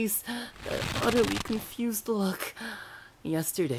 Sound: rope tightens

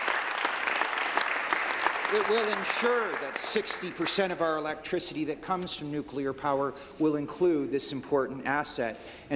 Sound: applause

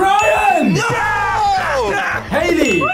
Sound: laughs

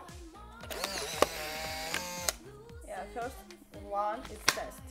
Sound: camera clicking

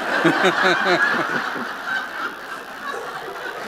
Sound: laughter

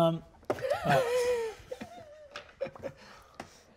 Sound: all laugh

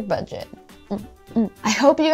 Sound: rhythmic grunting

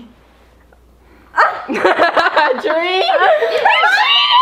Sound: laughs

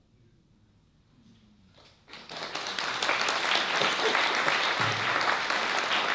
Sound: applause

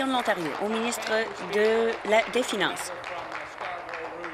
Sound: applause

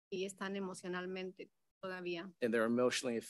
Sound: speaks in Spanish

